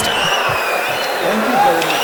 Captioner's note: wild applause and cheering for 22 seconds